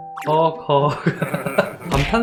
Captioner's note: heavy breathing